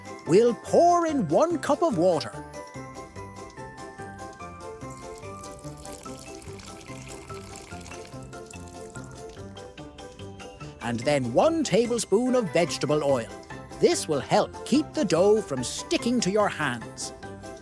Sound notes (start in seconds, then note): none